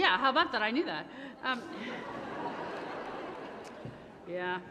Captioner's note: laughter